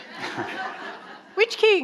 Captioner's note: audience laughing